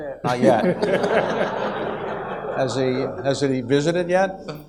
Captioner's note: audience laughs